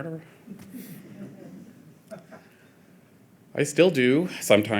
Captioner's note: audience chuckling